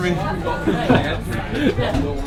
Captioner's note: laughing